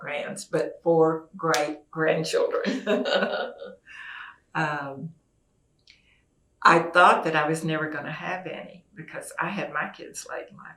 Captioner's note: laughter